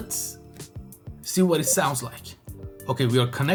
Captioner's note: Blue Tooth beeps